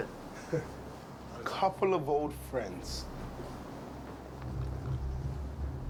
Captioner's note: laughs; suspenseful music